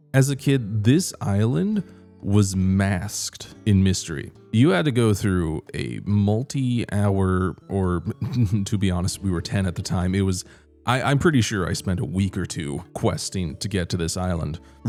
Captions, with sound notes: As a kid, this island was masked, in mystery you had to go through a multi-hour or… [chuckles] to be honest we were ten at the time, it was I- I'm pretty sure I spent a week or two questing to get to this island